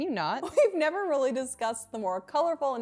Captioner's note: chuckles